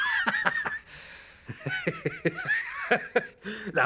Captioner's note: man laughing